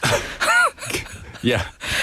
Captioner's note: laughs